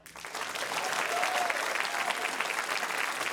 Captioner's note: cheering, applause